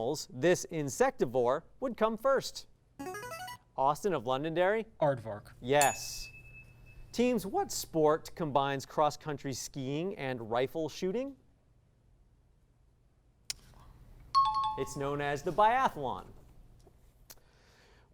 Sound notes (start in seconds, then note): 3.0 signaling device tone; 5.8 ding; 14.4 high-pitched tones